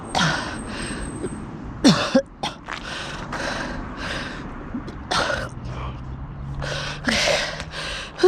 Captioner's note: gags